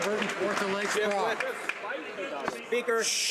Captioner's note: some Applause